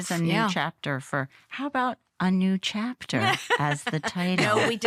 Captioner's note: laughter